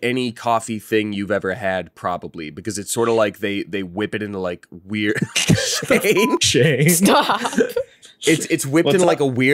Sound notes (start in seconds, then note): 5.2 laughs